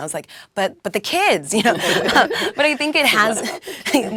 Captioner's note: laugh